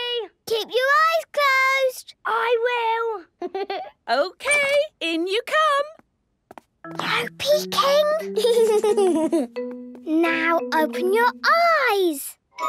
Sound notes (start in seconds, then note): 3.4 Danny laughing; 6.6 whispering; 8.3 Danny giggling